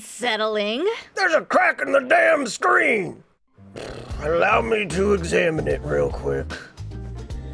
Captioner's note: sigh